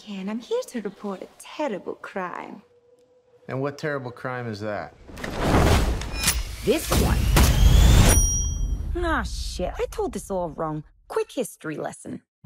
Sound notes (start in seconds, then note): 8.0 bell dings